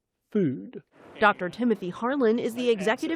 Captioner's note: voice-over